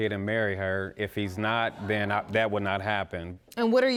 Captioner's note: audience gasps